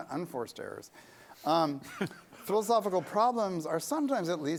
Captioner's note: laughter